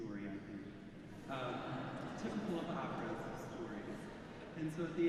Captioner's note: audience laughing